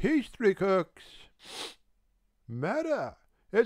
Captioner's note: he sniffs